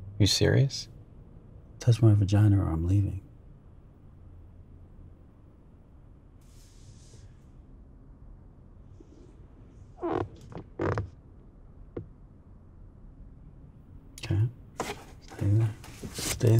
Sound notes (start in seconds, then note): 10.0 seat creaking